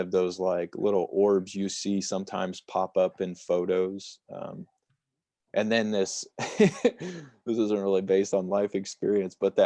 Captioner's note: laughter